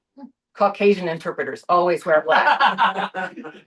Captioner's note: laughter